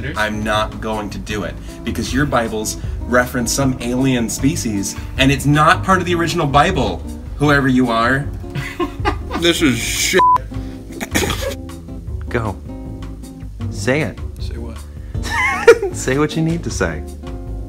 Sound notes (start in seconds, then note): 8.5 off-screen, laughs; 15.2 laughs